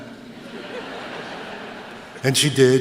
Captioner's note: laughter